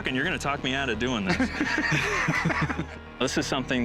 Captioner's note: both laugh